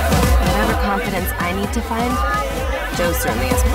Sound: voiceover

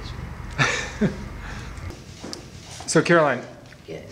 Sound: interviewer laughs

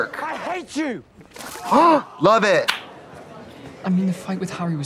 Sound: water splashing; gasping

